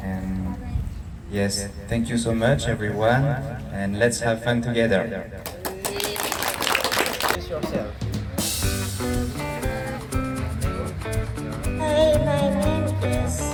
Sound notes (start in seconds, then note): 7.6 applause